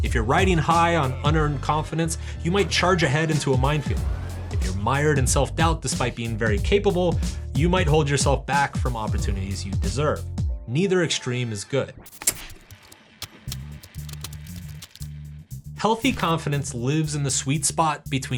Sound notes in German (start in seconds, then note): 13.4 Tasten klappern